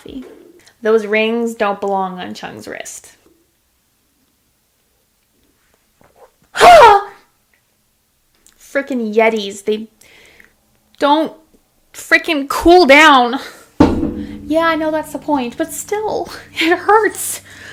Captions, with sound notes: Those rings don't belong on Jung's wrist. (scream of pain) Freaking Yetis, they don't freaking cool down. Yeah I know that's the point, but still. It hurts.